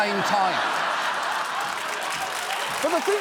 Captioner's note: audience laughing, applauding